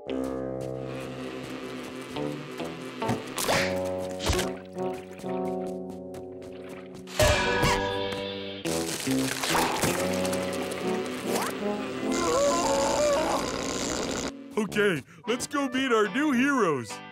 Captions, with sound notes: [screaming] Okay, let's go meet our new heroes.